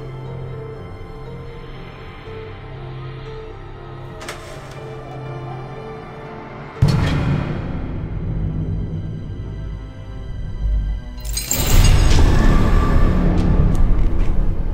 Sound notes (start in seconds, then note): 6.8 door slamming; 12.0 dramatic music